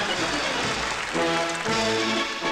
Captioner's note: applause